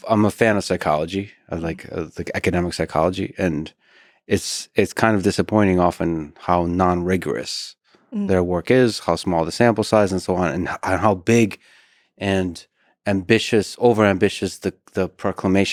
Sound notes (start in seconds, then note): none